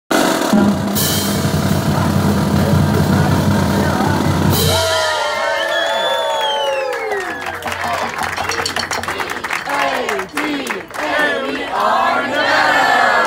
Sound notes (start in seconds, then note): 2.7 drum roll and cheering